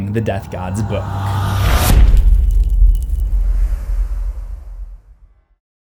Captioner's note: impact